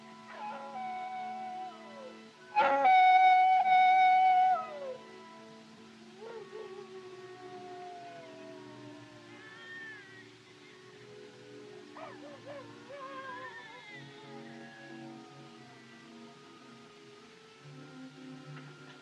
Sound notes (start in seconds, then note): 0.0 howling; 9.4 baby Crying; 11.9 howling Continues; 12.9 crying Continues